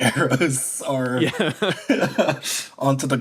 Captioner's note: laughs